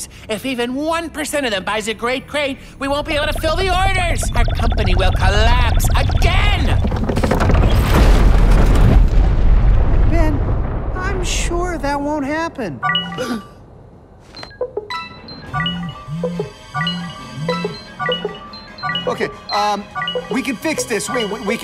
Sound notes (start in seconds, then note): 12.8 phone chimes; 14.9 chiming together; 17.6 chiming continuing